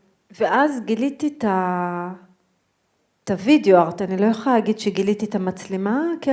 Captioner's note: speaking in foreign language